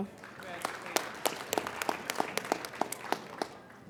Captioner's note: applauding